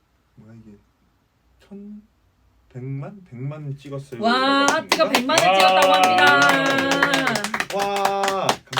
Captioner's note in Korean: 박수